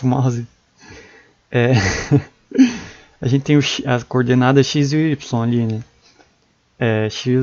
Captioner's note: laugh